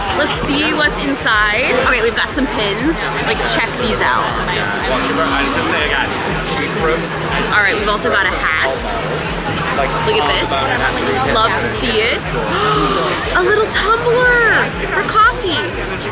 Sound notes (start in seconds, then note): 4.9 gasping; 12.5 gasps